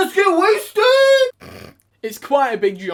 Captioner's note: laughs